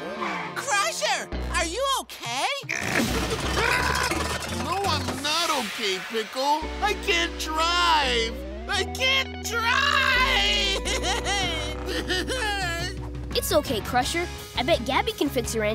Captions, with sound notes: Crusher, are you okay? [grunting] No I'm not okay Pickle. I can't drive! I can't drive! [sobbing] It's okay Crusher, I bet Gabby can fix your engine.